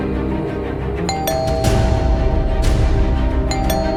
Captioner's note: door bell